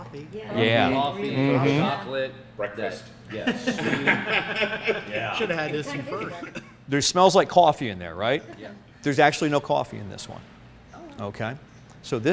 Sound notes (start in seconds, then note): 1.3 soft Voice; 3.4 laughs